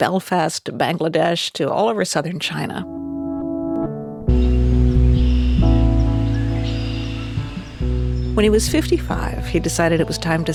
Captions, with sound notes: reporting from Belfast to Bangladesh to all over southern China. (soft atmospheric music) (birds chirp) When he was 55,